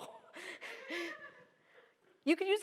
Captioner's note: laughter